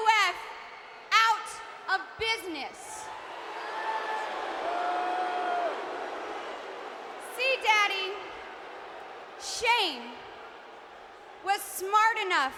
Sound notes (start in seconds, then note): 3.0 audience booing